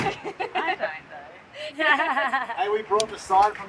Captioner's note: both laughing